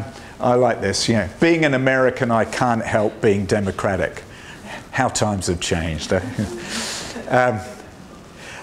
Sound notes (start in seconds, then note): 6.1 laughter